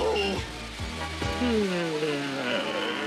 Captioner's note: yawns